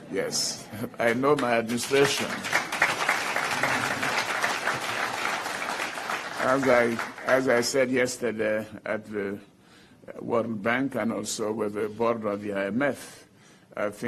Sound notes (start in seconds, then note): 1.7 applause